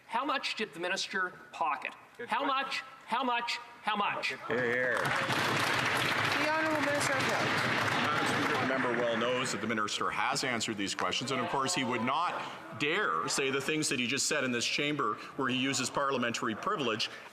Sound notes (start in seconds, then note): 10.5 some Applause